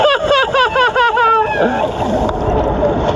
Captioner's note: laughter